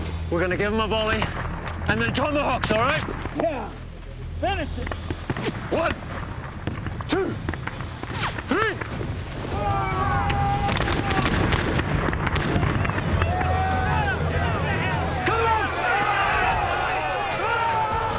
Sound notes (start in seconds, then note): 9.5 shouting, firing; 17.5 shouting